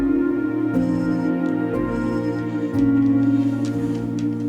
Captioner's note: dog whines